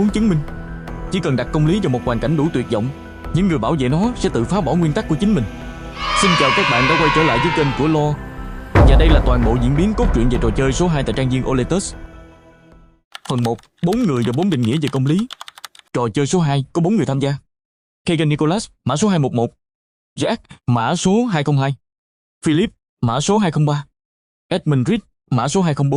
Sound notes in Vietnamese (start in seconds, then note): 5.9 la hét; 5.9 hò reo